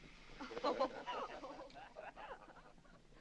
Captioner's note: all laughing